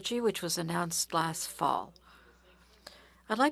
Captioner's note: speaking French